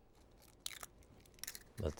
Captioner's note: egg cracking